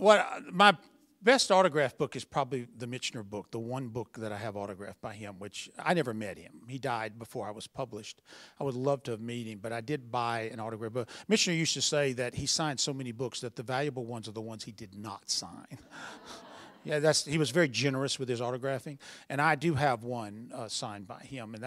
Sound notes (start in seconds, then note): 15.7 laughter